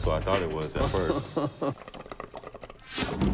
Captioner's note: Chumlee chuckles; bong water bubbling